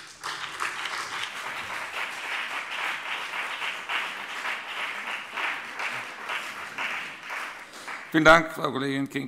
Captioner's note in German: Beifall BÜNDNIS 90/DIE GRÜNEN und CDU